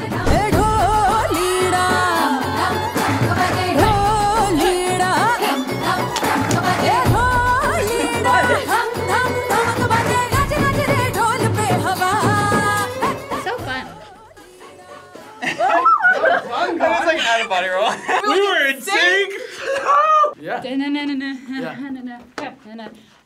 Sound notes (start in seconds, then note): 0.2 upbeat music; 15.4 both laugh; 18.2 laughs